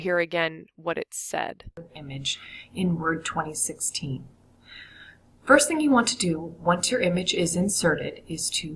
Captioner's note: video audio playing